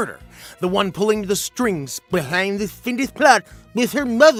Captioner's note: Droopy voice